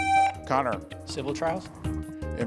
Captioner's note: buzzer buzzing